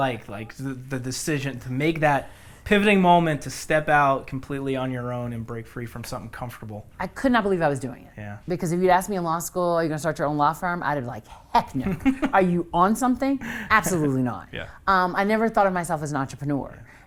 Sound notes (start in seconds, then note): 12.0 laughs